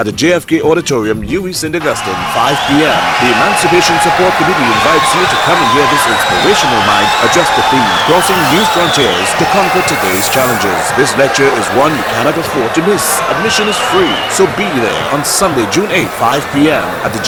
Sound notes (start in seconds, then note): 4.6 wild applause and cheering for 22 seconds